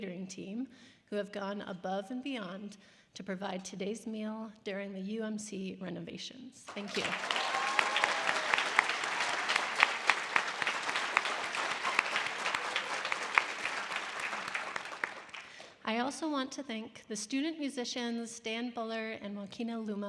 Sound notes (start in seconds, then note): 6.6 applauding; 6.7 audience applause